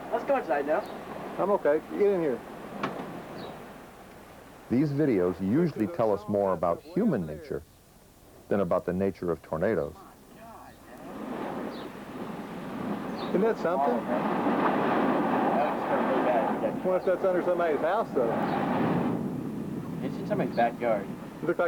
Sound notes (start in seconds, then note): 2.8 door closes